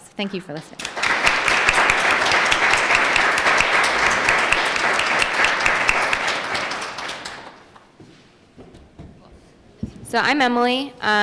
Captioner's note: applause